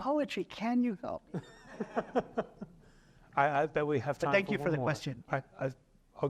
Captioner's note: laughter